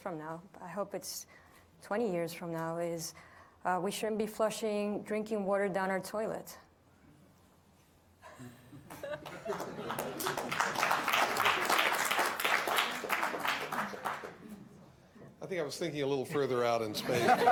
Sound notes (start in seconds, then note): 8.9 audience applauding